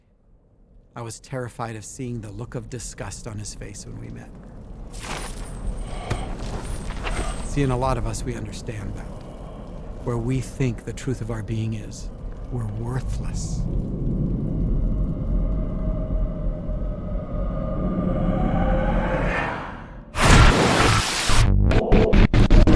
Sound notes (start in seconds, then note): 4.9 chains rattling; 20.1 fragmented whooshing